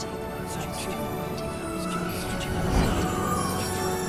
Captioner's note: epic music; soft whispering